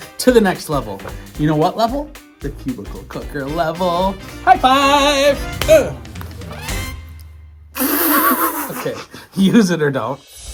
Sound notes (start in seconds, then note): 7.8 laughing